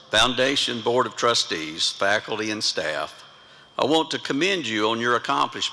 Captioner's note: none